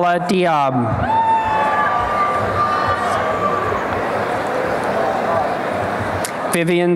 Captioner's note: applause and cheering